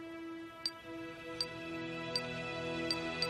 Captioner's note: beeping